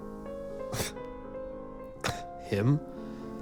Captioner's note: Hugo scoffs